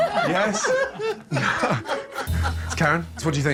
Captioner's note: all laughing